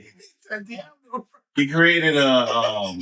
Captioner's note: speaking In Foreign Language